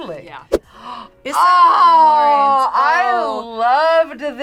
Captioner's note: gasps